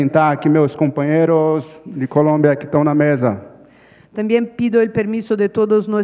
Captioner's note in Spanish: Ponente habla en portugués